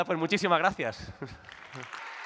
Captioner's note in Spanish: Aplausos